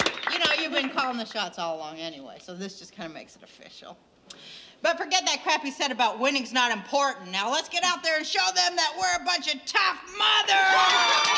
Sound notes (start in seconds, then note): 6.3 women applauding; 6.3 women cheering